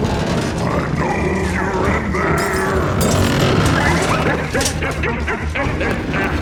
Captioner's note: cackles